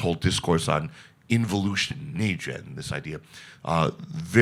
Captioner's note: speaks in Chinese